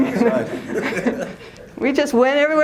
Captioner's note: laughter